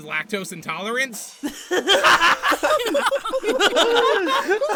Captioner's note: group laughter; intense group laughter